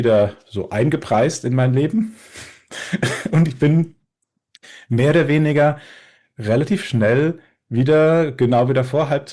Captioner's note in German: gelächter